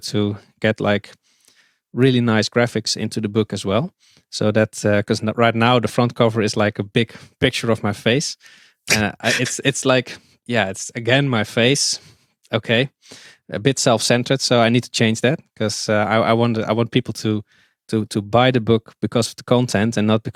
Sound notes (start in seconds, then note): 8.8 chuckles